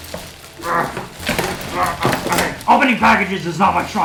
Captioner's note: grunts